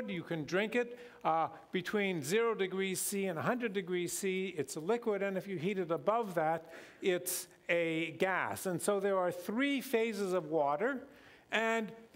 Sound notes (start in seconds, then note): none